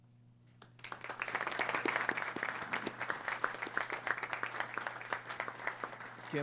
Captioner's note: applause